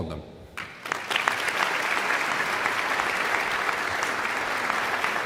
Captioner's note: audience clapping